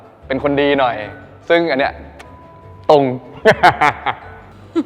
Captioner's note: laughs